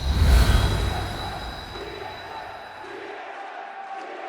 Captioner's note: crowd chanting